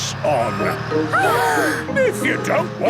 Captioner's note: children gasp